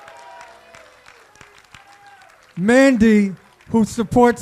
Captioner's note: applause